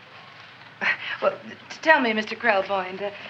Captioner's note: chuckles